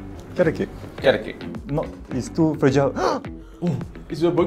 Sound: gasps

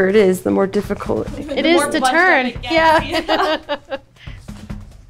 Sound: laughs

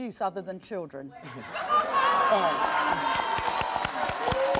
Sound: laughs

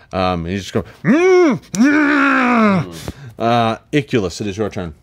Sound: grunts

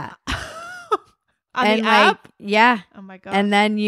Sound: laughs

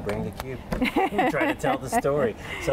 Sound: laughing

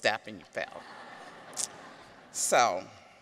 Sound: audience chuckles

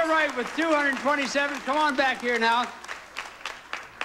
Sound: audience applauding

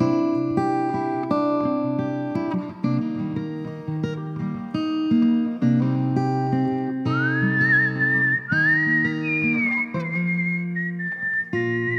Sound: whistles

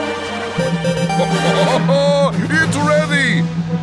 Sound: laughing

